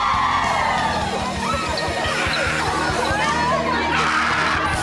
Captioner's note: cheerleaders yelling